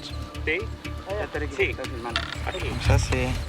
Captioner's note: Spanish language